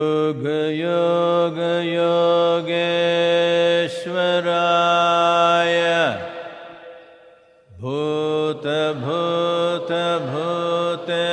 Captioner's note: participants chant along